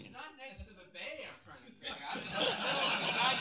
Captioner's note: laughter